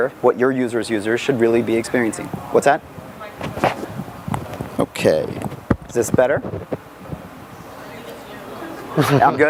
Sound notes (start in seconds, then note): 3.6 audience member murmuring; 6.6 audience murmuring